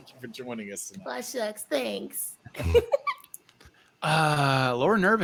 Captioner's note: giggles